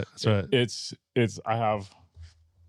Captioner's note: laughing